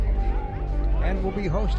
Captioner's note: crowd chattering